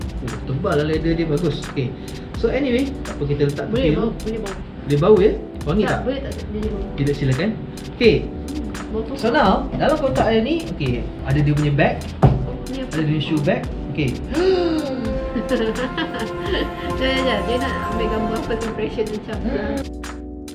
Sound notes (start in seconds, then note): 14.3 gasp